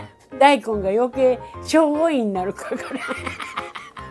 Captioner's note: laughs